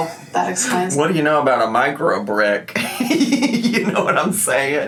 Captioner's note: laughs